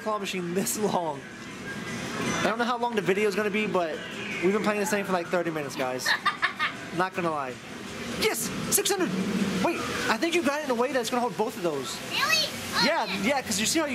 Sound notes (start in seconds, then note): 6.0 laughing